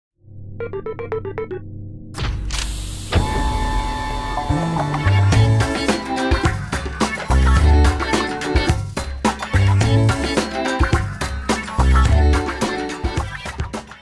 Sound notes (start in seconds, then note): 0.6 beeps; 2.2 door opening whir